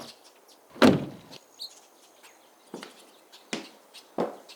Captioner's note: car door slams